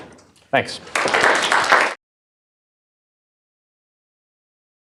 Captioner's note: applause